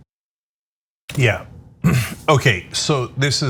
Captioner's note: cough